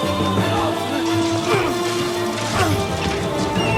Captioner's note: grunting